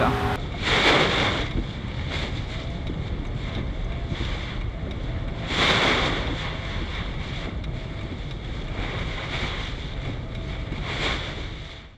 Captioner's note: sound of rain and windshield wipers